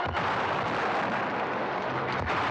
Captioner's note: cannon firing; wall crashing in; cannon firing